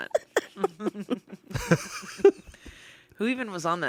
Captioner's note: everyone laughs